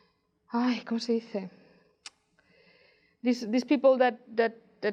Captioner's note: in foreign language